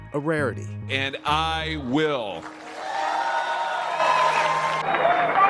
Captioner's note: applause